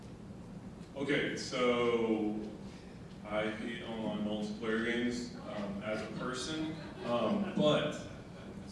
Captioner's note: audience laughing